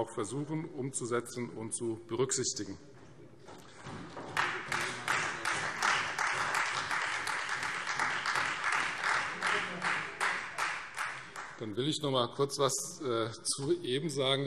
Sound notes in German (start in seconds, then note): 4.1 Beifall Freie Demokraten